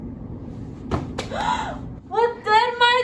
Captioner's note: gasps